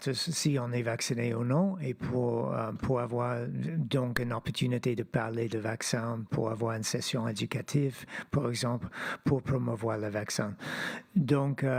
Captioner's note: speaking French